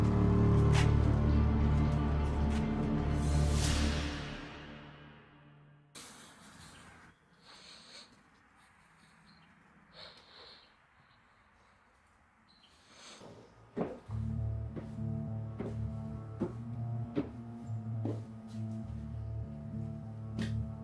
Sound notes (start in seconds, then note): 0.0 tense music continues; 13.2 footsteps tapping; 18.2 tense music